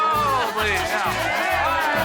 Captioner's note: cheering, music playing